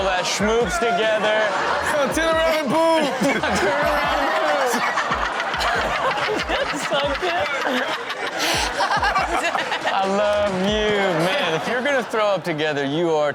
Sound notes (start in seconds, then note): 3.3 everyone laughs